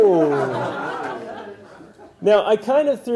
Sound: laugh

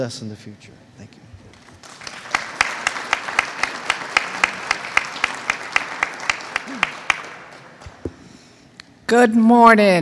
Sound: applause

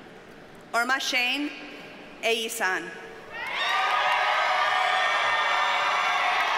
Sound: audience cheers and applauds

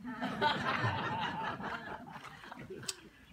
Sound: laughter

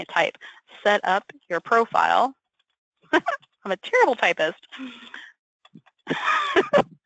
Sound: laughs

